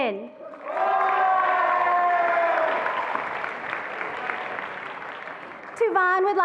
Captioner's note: attendees applauding and cheering